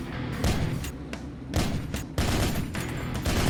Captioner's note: gun fires